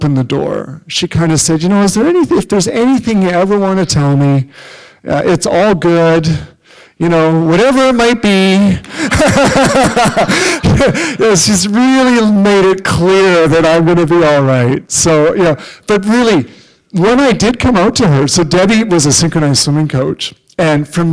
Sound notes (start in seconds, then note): 8.8 laughter